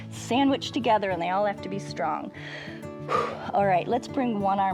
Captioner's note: exhales